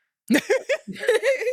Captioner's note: laughing